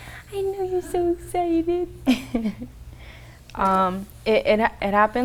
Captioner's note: laughs